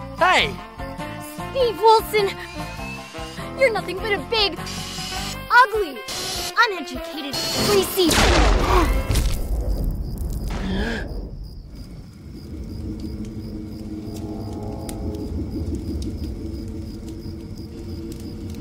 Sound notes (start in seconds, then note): 8.1 object blasting; 10.5 Steve gasping; 11.8 ominous ambient music